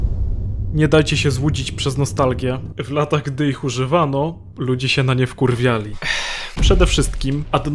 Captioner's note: sigh